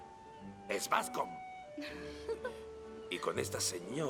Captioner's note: Ruth laughs